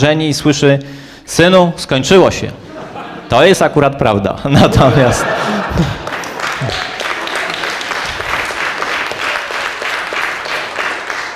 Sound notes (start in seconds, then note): 4.6 laugh; 5.8 applause